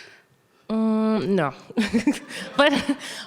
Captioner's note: laughing